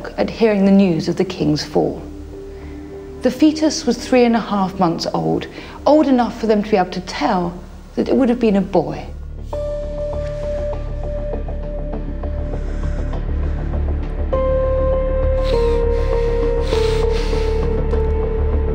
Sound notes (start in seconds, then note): 13.3 Henry breathes heavily